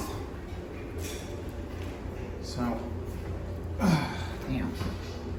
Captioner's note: dryer continues running; goes up the stairs and grunting